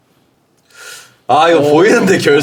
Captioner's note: inhales